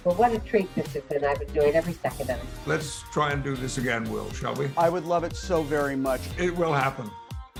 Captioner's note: laughs